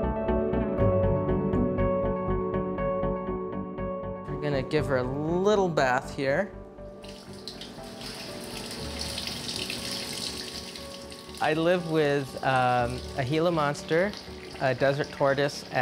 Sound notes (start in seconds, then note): 8.4 water running